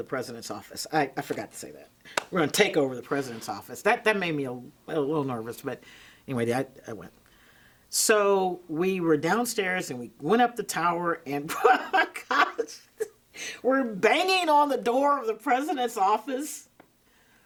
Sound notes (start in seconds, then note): 11.5 laughing